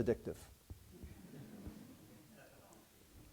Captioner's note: laughter